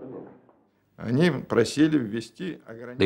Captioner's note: speaking Russian